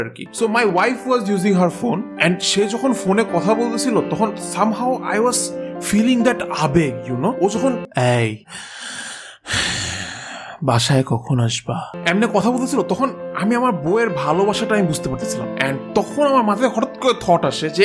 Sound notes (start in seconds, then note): 8.8 talks with heavy breath